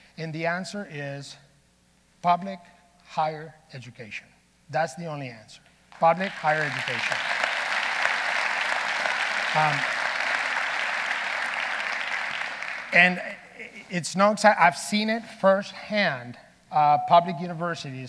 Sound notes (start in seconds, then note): 7.6 audience applauding